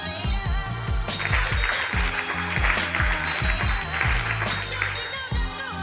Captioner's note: audience applauds